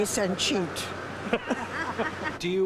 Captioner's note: woman laughing